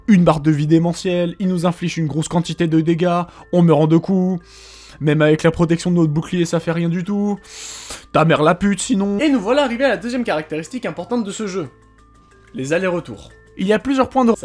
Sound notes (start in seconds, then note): 4.4 intense breathe in; 7.4 intense breathe in